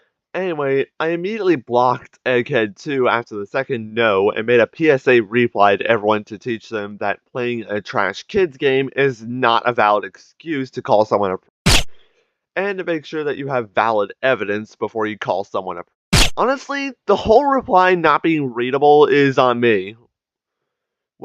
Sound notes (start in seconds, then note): 10.9 silenced gunfire; 15.4 silenced gunfire